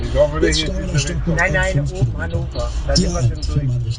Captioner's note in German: Radio im Hintergrund